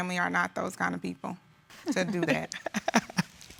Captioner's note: laughing